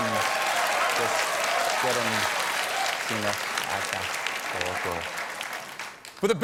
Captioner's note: applause